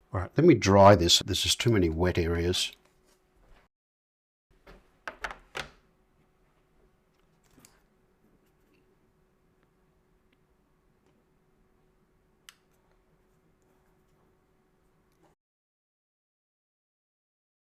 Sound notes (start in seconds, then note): 5.9 silence